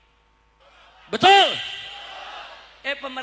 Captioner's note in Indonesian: berteriak